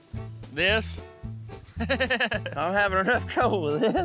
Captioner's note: laughs